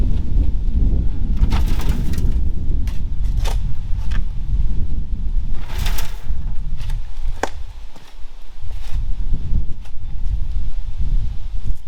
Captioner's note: saw whirring